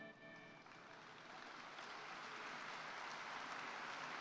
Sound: applause

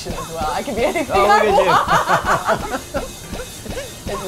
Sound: laughing

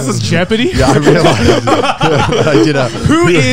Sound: everyone laughs

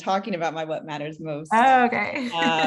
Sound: laugh

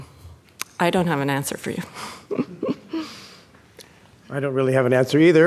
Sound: laughing

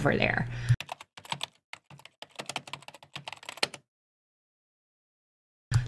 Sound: keyboard keys clacking

